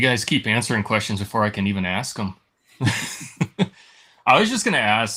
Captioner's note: laughs